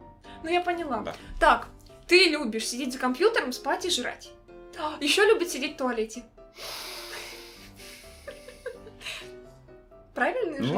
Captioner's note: laugh